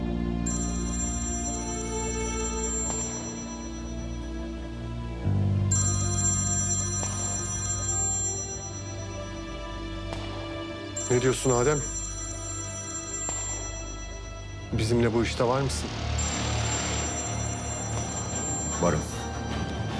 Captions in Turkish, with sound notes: [Telefon çalıyor] Ne diyorsun Adem? Bizimle bu işte var mısın? [Telefon çalıyor] Varım.